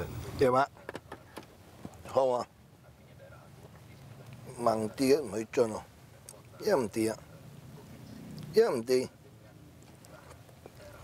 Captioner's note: speaking in his traditional language